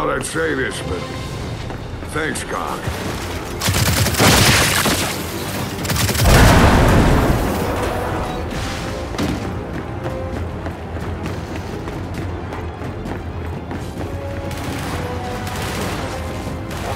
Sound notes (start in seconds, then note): 3.5 gunfire